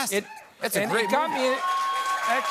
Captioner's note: cheers and applause